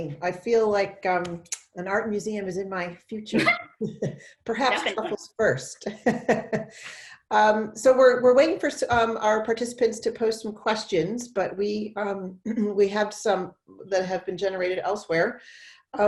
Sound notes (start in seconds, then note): 3.3 both laugh; 6.1 laughs